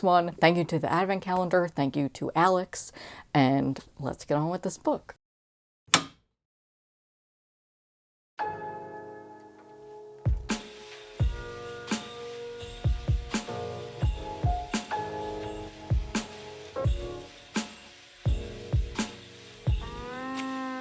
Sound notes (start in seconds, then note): 5.9 light switch turns on